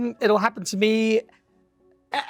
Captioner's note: none